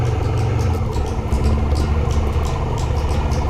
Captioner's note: engine revving